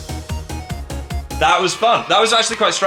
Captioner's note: upbeat victory music; children cheering